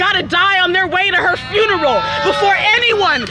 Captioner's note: crowd cheering